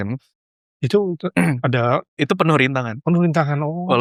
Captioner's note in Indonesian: berdehem